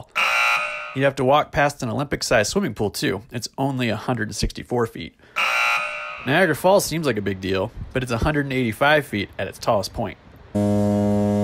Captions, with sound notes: You have to walk past an Olympic-sized swimming pool, too. It's only a hundred 164 feet. [buzz] Niagara Falls seems like a big deal, but it's 185 feet at its tallest point. [foghorn]